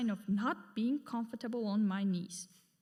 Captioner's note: none